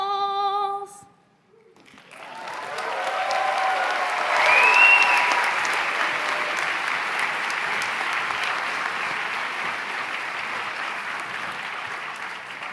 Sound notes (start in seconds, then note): 1.8 applause